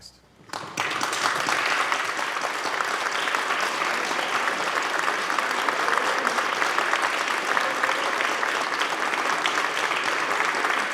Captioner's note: applause